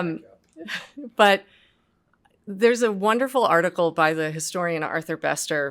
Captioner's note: laughs